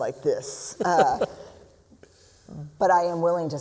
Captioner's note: laughs